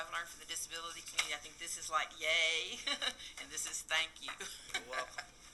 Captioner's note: laughter